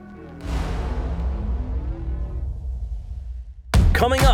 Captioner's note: logo thuds